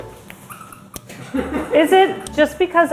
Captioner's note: pickle squeaking